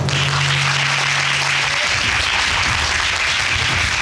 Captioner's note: audience applauding